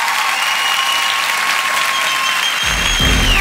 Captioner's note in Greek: θερμό χειροκρότημα